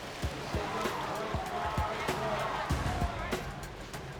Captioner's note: cheering